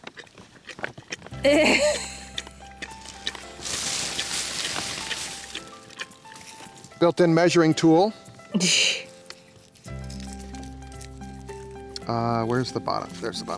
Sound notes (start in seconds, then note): 0.0 Labrador munching; 1.4 woman laughing; 8.5 woman chuckles; 9.7 mellow music